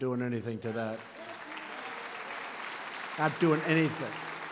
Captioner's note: applause